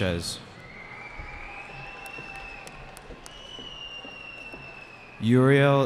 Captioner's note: cheering